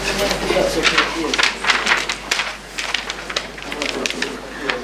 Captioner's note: paper crumpling